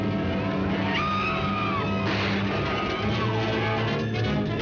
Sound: dramatic music; woman screaming; dramatic music; guns firing

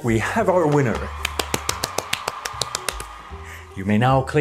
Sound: clapping

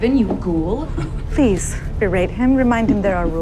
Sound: chuckles

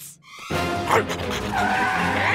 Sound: barking

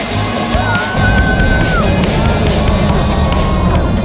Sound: cheering

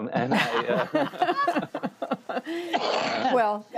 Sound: laughter

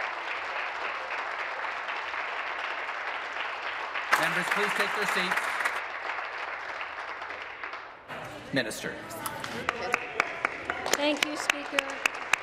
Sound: applause

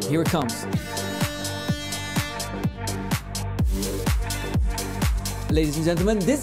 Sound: background upbeat music; siren blaring

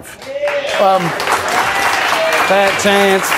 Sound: applause

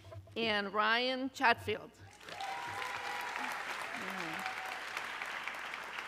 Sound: audience cheering

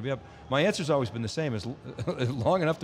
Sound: laughs

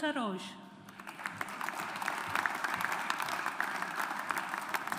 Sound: audience applauds

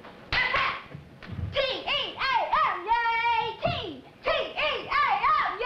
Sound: claps; chanting

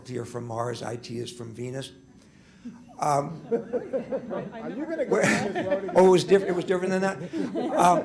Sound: laughter

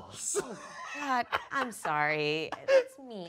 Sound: laughing

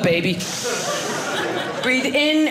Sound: audience laughing

